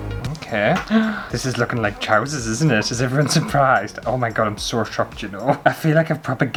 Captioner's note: gasp!